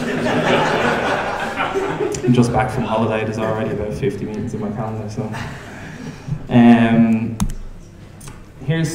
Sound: laughing

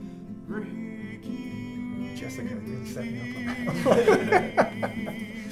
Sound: laugh

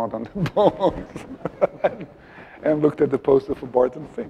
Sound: laughs

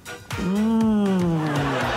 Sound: laughter

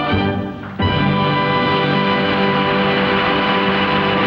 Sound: audience applauds

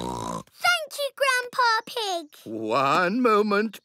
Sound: snorts

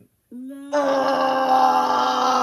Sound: groans

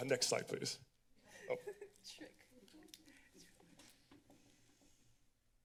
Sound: laughter; silence

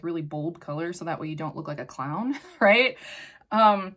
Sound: chuckles

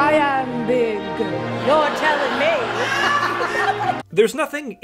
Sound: audience laughter

